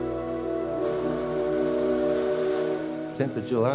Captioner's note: riverboat whistle blowing